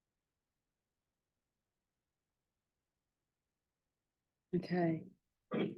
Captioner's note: silence